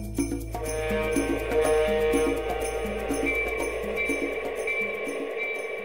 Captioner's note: clanging bell; train horn